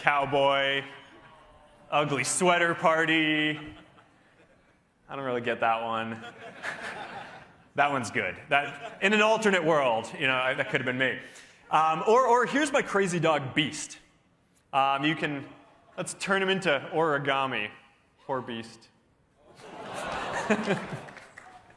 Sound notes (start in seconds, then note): 8.6 laughter